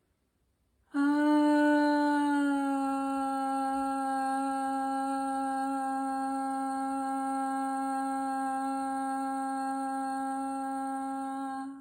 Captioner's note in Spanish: suspiro y tono